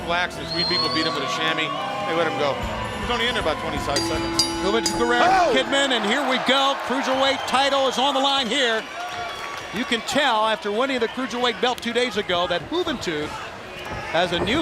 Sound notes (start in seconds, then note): 7.8 bell ringing